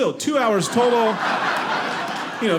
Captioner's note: audience laughing